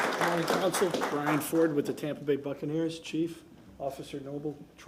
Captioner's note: applause